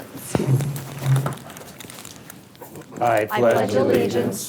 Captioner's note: chairs shuffle